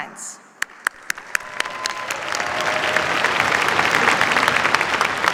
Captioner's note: cheers, applause